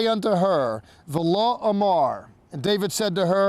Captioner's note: speaking in Hebrew